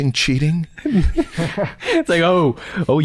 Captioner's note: chuckles